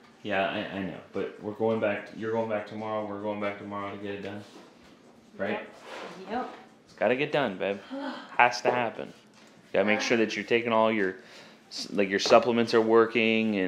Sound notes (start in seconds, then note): 7.8 sighs